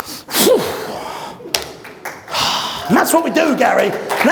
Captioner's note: exhales